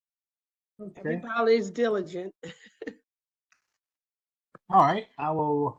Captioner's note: laugh